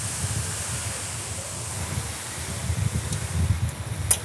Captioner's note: machine air gushing